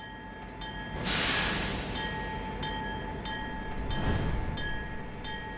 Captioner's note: bell clanging